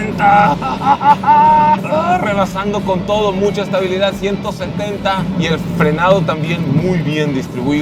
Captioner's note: excitement screams